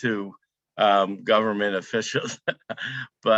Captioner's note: laughs